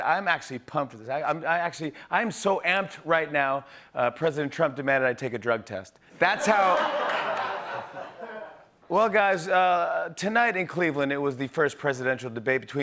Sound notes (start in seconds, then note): 6.4 laughter